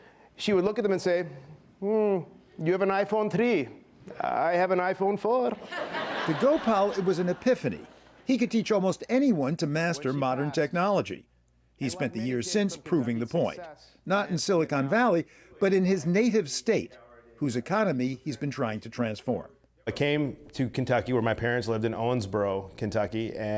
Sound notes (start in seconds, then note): 5.6 laughter